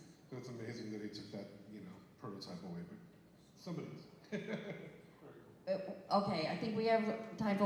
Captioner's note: laughs